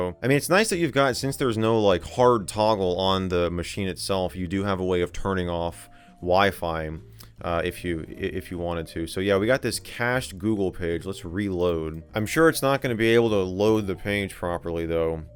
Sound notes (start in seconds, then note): none